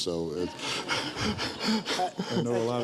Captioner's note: audience laughs